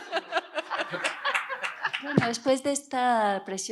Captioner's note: risas